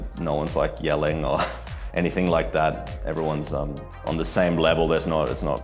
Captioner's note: chuckles